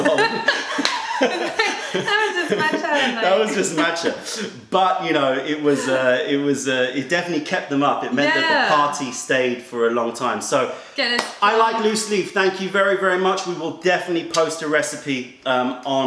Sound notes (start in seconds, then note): 3.9 laughter